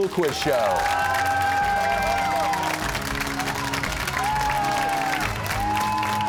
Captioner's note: cheers and applause